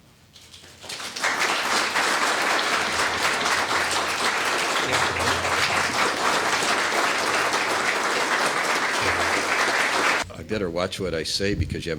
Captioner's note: laughter